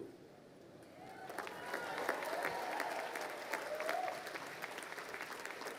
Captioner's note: crowd cheering and applauding